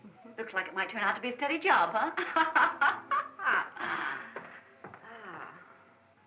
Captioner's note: laughing